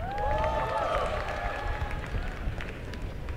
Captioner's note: applause and cheering